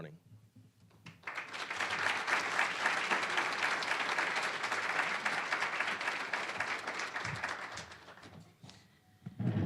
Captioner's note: applause